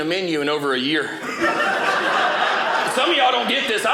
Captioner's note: audience laughing